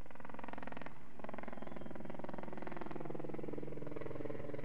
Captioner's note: helicopter blades whirring